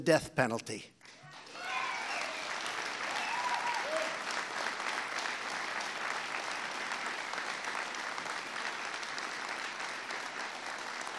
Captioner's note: applause